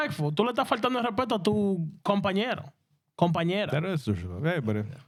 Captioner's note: speaking In Spanish